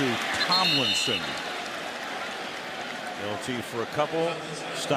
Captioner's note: whistles